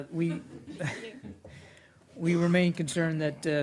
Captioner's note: laughter